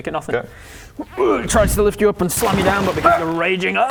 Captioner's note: hrgh